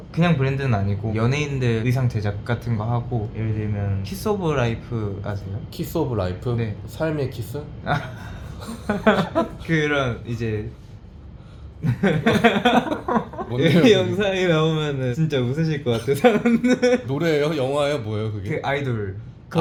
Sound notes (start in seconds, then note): 11.8 laughter